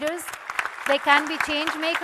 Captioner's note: audience and panel applauding